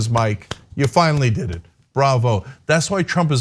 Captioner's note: applause